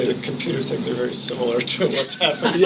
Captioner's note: laughing